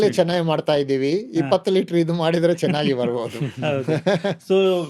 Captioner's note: laughs